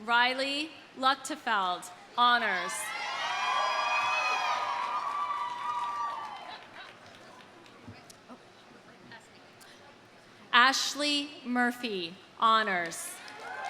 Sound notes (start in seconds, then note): 3.5 audience applauding; 4.5 audience cheering